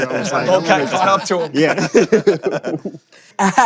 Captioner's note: laughs